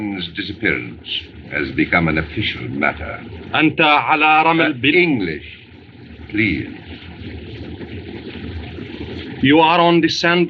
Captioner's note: speaking Native Language